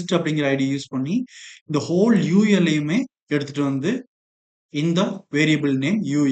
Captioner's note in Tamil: தொண்டையைச் சரிசெய்தல்